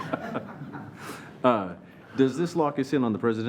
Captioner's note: laughing